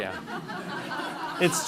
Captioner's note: laughing